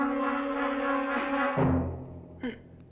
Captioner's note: gasps